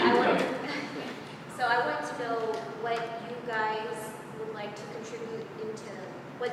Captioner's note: laugh